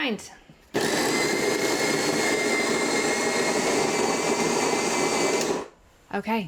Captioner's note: whirring